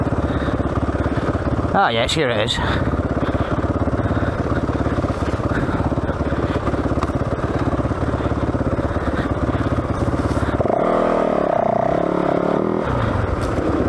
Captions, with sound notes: Ah, yes, here it is. (engine revving)